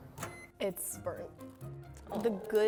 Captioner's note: microwave beeps